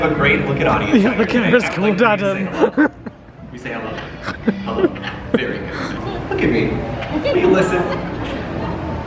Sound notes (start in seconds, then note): 2.2 laughing